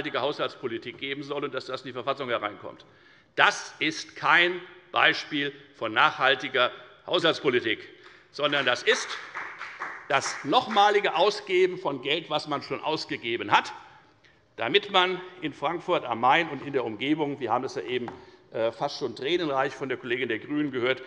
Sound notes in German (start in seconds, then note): 8.4 Beifall bei der FDP